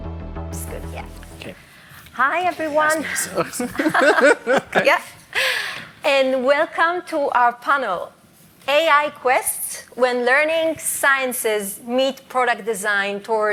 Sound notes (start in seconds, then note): 4.7 laughter